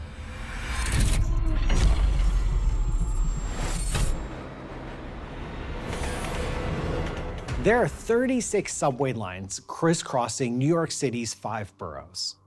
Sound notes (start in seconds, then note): 0.2 intense music; 3.8 train rattling